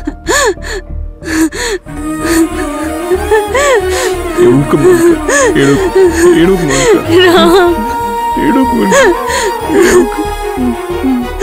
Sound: she cries

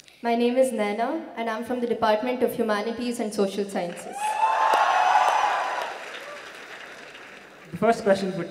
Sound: cheers

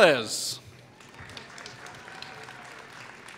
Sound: applause

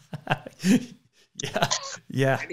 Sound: laughing

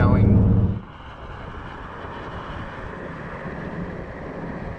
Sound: wind whirling

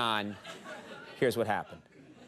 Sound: audience laughs

